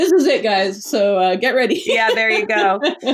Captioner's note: laughs